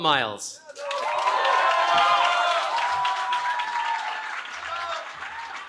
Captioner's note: cheering